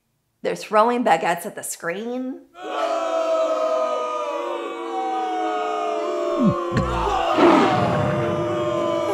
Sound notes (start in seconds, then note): 2.6 french booing; 8.7 French booing intensifies